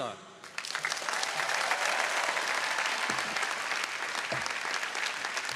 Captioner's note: audience applauding